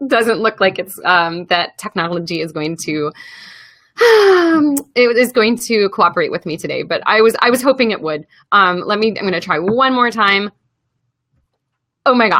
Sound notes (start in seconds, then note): 4.0 sigh